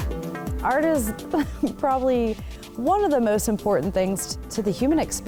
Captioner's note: laughs